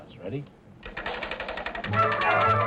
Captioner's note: wheel clattering